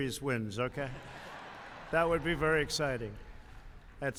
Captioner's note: laughter